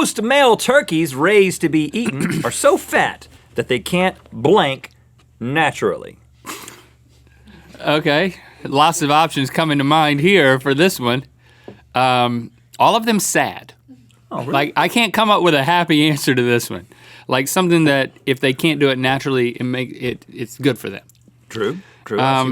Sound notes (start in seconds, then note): 6.6 chuckles